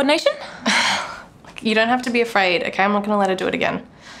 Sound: chuckles

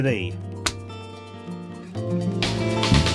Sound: slap

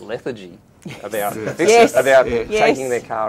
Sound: laughing

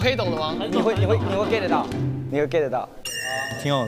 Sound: group approval

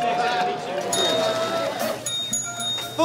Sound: loud chatter; dinging

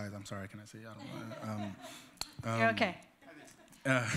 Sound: laughter

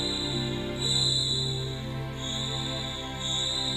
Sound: shrieking in distance

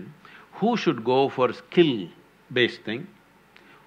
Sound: none

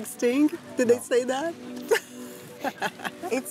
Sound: laughs

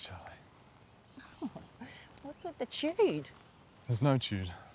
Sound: chuckles

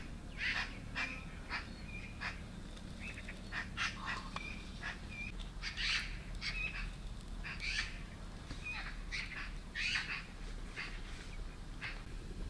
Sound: birds singing

